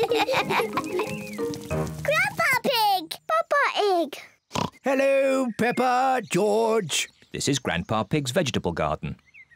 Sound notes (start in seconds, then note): 4.5 oinks